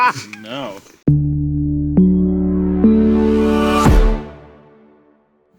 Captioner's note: all laugh; stomps once more